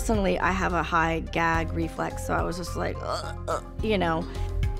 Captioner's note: gagging sounds